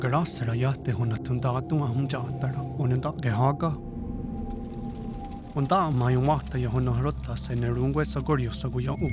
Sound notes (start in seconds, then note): 3.7 fire crackling